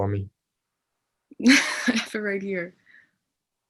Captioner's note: laughs